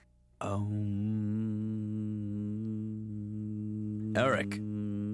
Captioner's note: sighs; humming mantra